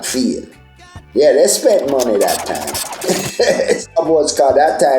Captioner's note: laughing